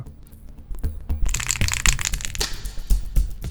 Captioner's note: spray can rattling